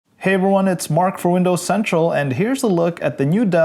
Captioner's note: voiceover